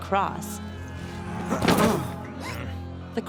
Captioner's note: grunts; gasp